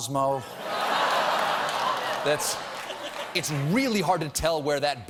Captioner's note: laughter; applause